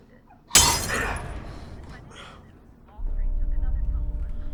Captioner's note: glass shatters; Paul groans; ominous music